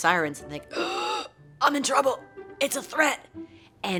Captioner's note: gasping